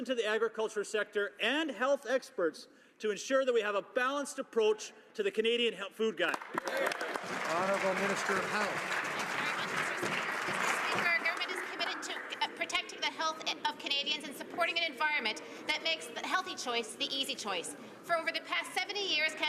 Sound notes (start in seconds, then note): 10.1 some Applause